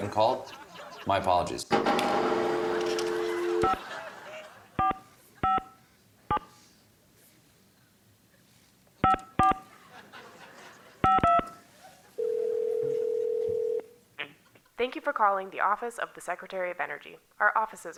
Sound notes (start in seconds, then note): 3.5 dialing; 3.5 laughter; 11.9 ringing